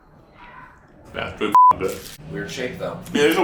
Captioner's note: beep